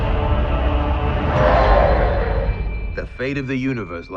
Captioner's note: alien roars